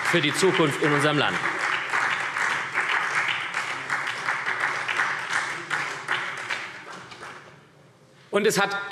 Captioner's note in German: Beifall